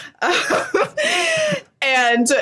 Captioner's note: nervous laugh